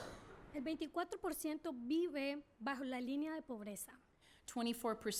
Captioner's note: speaking spanish